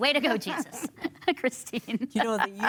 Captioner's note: laughter